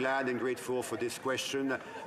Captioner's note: some Applause